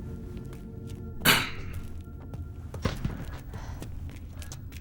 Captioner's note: gentle music; throat clearing